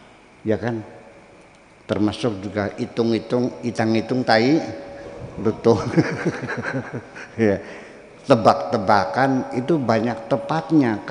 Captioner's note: laughs